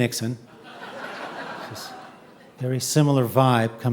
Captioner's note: audience laughing